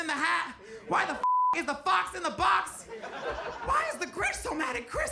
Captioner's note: beep